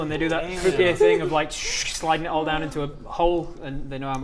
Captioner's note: schh